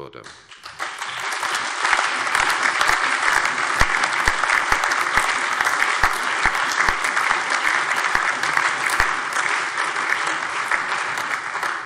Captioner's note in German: Allgemeiner Beifall